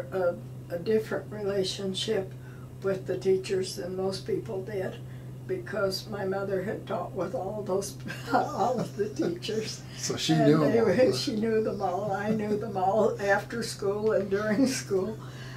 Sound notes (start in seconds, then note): 8.0 laughing